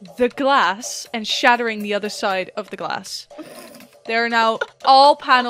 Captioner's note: laughs